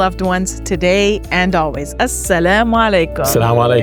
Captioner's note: speaking in foreign language